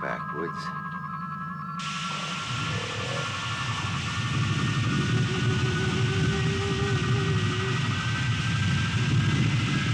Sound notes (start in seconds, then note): 1.8 crystal warbling; 1.8 geyser rumbling